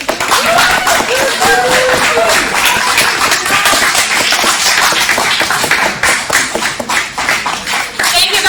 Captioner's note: more applause from the audience